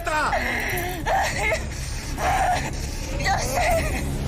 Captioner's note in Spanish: Sollozos